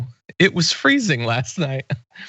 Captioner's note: laugh